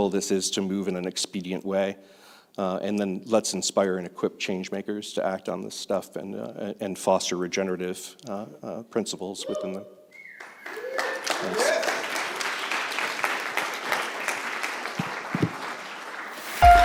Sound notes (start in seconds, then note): 10.4 applause